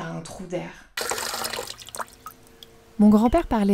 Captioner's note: sound of flowing water